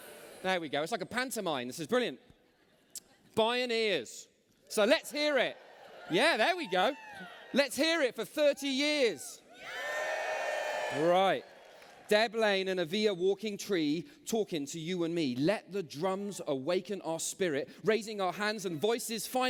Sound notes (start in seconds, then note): 5.2 cheers